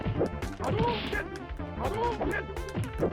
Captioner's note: limbs whooshing; legs thudding